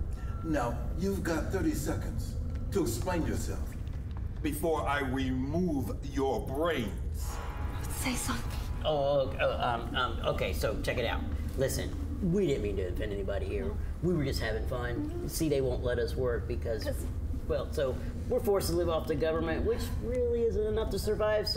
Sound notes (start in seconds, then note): 8.6 stammering